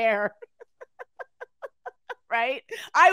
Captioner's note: laughing